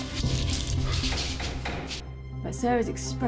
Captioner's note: knocking on door